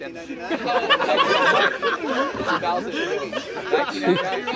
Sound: laughter

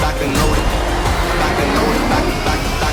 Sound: engines rev

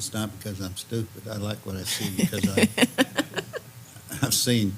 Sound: laugh

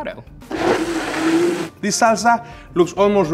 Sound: blender whirs

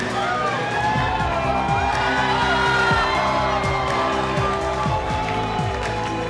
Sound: attendees cheering and applauding; upbeat music

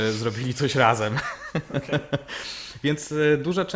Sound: laughter

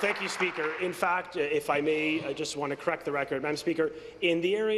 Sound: applause

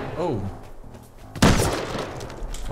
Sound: gunshot

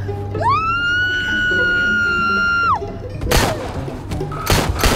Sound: screaming; gunshot

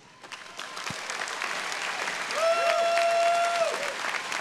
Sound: audience applauding

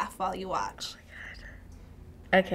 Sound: whispering

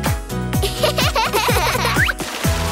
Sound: laughing

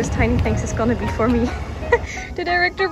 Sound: laugh

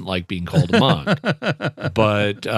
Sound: laughter

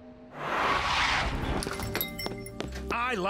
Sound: doorbell jingles

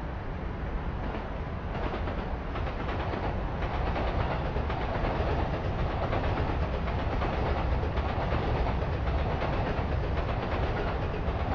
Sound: train Noises

